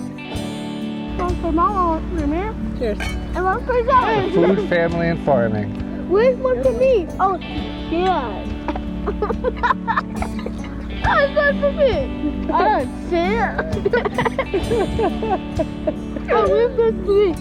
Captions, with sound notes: - Cheers. - To food, family, and farming. - Where's one for me? Oh, cheers. (laughing) (slow guitar music)